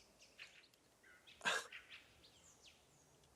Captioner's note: nervous laugh